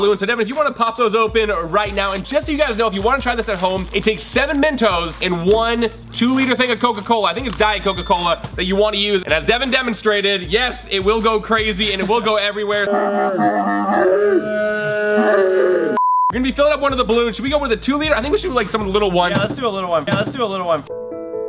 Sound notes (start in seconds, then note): 12.9 growling; 20.8 somber music